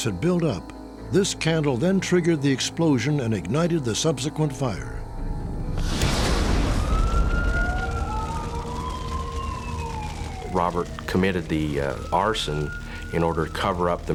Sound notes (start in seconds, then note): 7.3 sirens